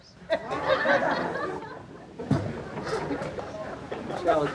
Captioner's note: audience laughing